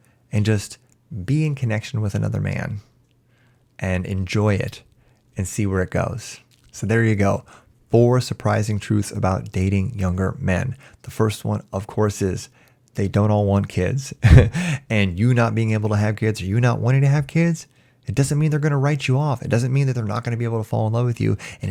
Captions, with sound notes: and just be in connection with another man and enjoy it and see where it goes. There you go, four surprising truths about dating younger men. The first one, of course, is they don't all want kids. [chuckles] You not being able to have kids or you not wanting to have kids, it doesn't mean they're going to write you off. It doesn't mean that they're not going to be able to fall in love with you.